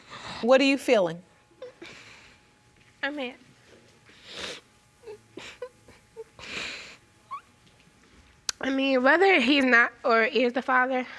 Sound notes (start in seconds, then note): 4.1 sniffing; 5.0 sobbing